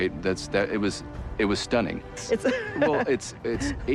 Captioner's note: laughs